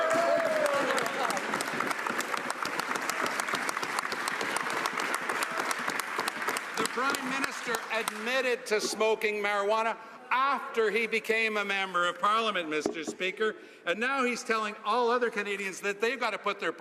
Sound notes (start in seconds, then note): 5.5 some Applause